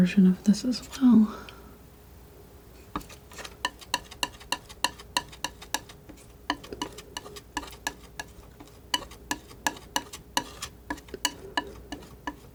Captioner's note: tapping